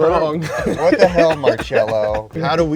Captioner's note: laughing; chuckles